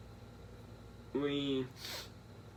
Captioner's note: sniffle